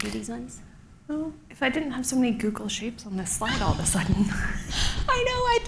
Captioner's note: laughs